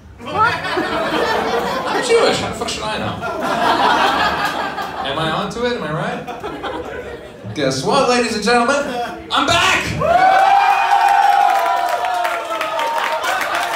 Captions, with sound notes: What? … I'm Jewish. How the f**k should I know? Am I onto it? Am I right? Well, guess what, ladies and gentlemen… I'M BACK! [audience cheers worshipfully]